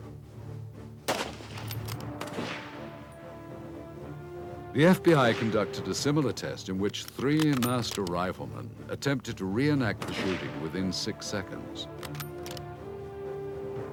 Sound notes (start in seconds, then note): 9.9 gun firing; 11.9 dramatic music